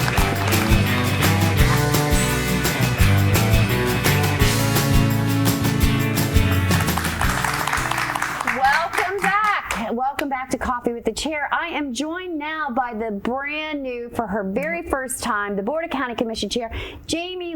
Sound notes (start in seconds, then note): 0.0 upbeat music; 6.4 applause